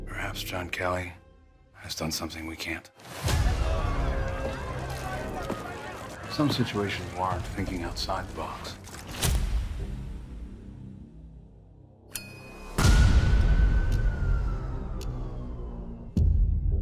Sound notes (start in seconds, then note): 3.3 people clamoring